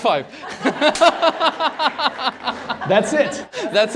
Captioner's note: laughter